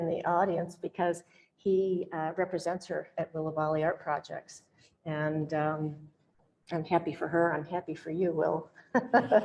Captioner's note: laughs